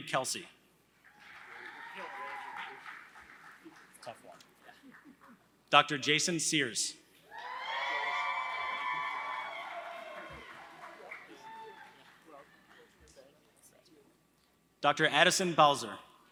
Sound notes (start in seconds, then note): 0.0 applause; 7.4 applause